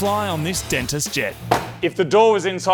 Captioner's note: closes door